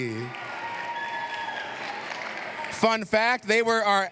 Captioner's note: cheers, applause